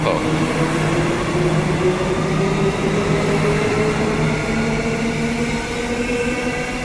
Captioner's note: train departs